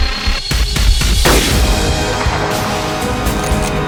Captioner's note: shot